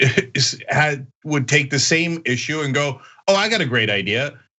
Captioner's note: laugh